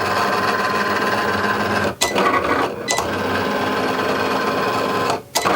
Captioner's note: machine whirring